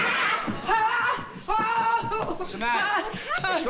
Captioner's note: screaming